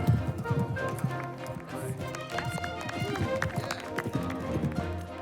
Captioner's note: students clapping